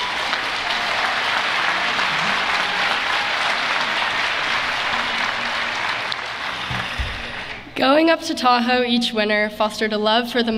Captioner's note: applause